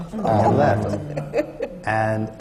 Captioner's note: laughter